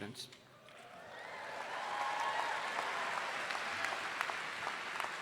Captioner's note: audience applauding